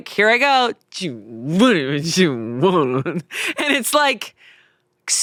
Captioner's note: mumbles